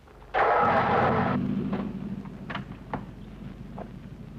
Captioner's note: engine rumbling